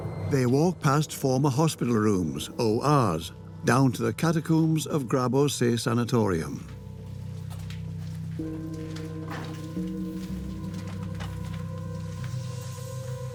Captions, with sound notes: They walk past former hospital rooms, ORs, down to the catacombs of Grabowsee sanatorium. (footsteps)